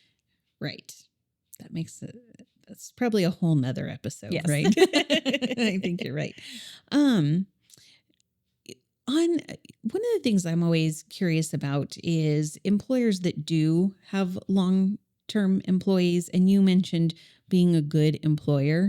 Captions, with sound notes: Right. That makes, that's probably a whole nother episode, right? (laughing) I think you're right. One of the things I'm always curious about is employers that do have long-term employees, and you mentioned being a good employer.